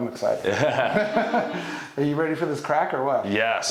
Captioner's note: all laughing